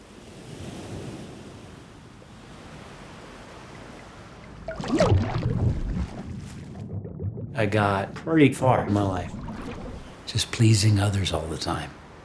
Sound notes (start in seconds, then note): 3.5 water burbling